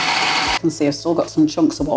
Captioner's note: food processor whirring